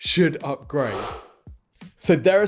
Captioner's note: swoosh